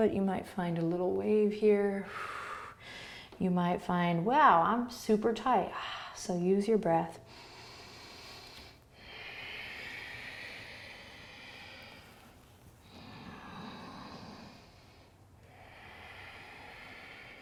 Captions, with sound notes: You might find a little wave here. (exhaling) You might find, wow I'm super tight, so use your breath. (inhaling and exhaling)